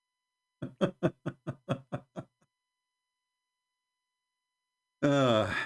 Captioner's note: Ketawa